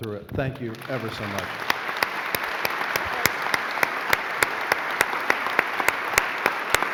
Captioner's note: applauding